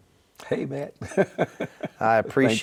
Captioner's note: laughing